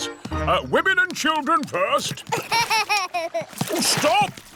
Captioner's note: laughs